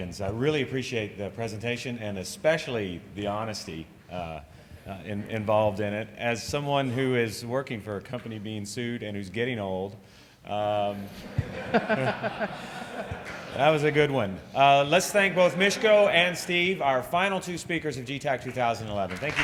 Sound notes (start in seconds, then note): 11.1 laughter; 19.2 applause